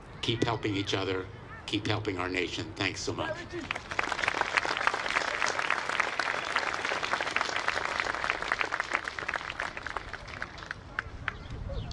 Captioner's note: applause